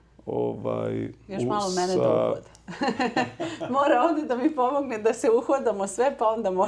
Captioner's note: laughs